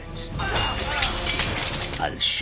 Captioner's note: swords clanging; men grunting